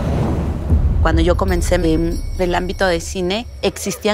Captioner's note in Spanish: Sonido suave de campanas